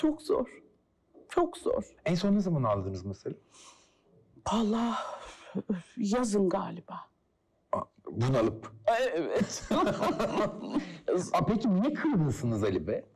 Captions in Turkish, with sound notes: Çok zor. Çok zor. En son ne zaman ağladınız mesela? Valla. Yazın galiba. Bunalıp? Evet. (Gülüyor) Ablacığım niye kırgınsınız Ali Bey'e?